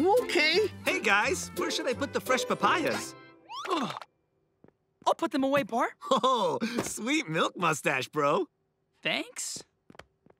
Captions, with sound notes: Hey, guys, where should I put the fresh papayas? I'll put them away, Par. [chuckles] Sweet milk moustache, bro. Thanks?